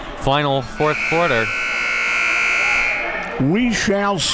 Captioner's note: buzzer buzzes